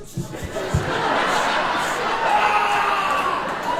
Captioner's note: audience laughing